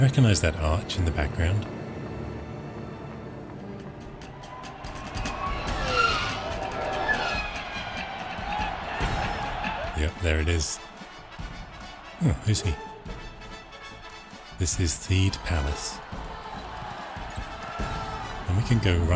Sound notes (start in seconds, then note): 4.6 people celebrating; 12.7 instrumental music; 16.5 instrumental music